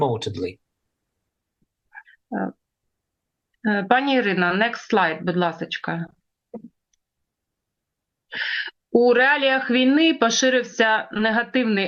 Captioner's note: foreign language